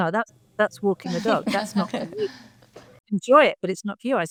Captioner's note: panelists laughing